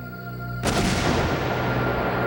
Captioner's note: gunshot